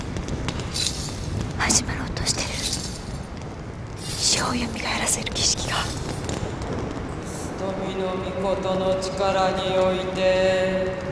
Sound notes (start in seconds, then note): 7.5 chanting